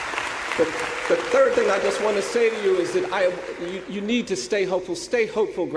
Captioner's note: applause